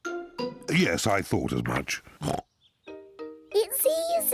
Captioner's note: oinks